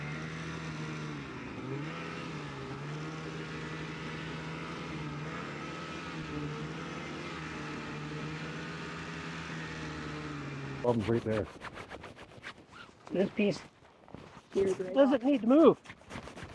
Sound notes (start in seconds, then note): 0.1 snowmobile revs; 2.6 snowmobile engine droning; 10.8 rubber scraping